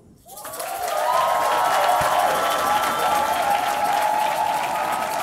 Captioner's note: audience applauding